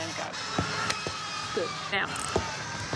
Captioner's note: thud! thud!